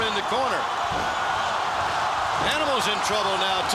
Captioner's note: crowd cheering